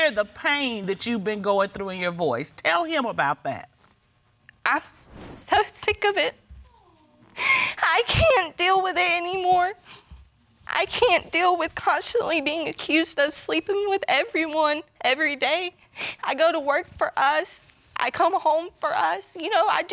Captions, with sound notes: I hear the pain that you've been going through in your voice. Tell him about that. (VOICE BREAKING) I'm so sick of it. (SOBBING) I can't deal with it anymore. I can't deal with constantly being accused of sleeping with everyone, every day. I go to work for us. I come home for us.